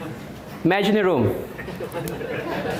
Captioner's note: audience Laughing